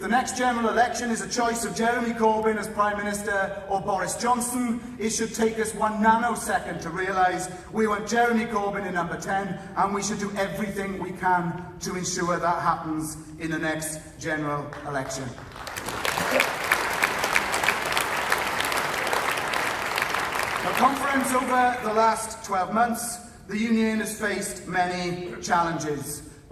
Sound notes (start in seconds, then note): 17.3 applause